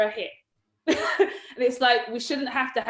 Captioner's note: laughs